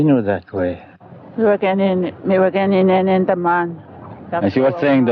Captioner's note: speaking Indigenous Language